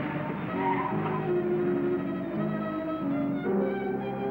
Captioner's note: tires squealing